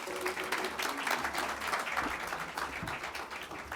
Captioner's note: audience clapping